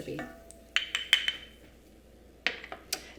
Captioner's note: glass clinking; placing bowl down